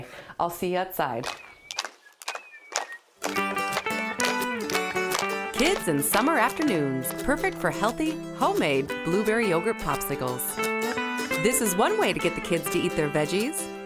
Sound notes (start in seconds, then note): 3.2 whistling; 3.2 clapping; 3.7 light guitar music